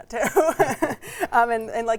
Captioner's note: laughs